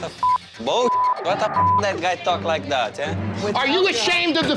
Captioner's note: beep